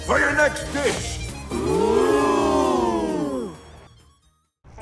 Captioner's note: crowd ooohs